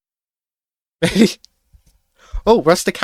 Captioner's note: laughs